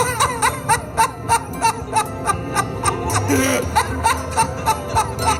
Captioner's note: laughter